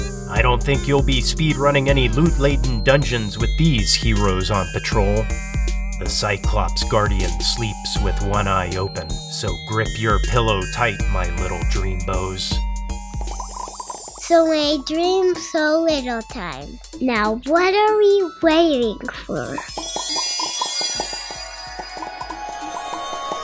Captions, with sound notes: I don't think you'll be speedrunning any loot-laden dungeons with these heroes on patrol. The Cyclops Guardian sleeps with one eye open, so grip your pillow tight my Little Dreambows. [bubble sounds] So many dreams, so little time. Now what are we waiting for!? [bubble magic sounds]